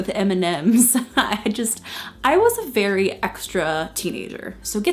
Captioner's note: chuckles